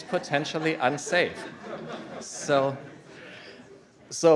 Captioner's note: laughter